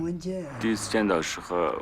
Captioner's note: speaking Tibetan